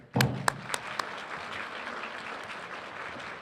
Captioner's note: applause